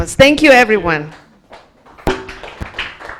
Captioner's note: applause